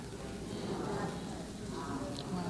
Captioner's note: murmurs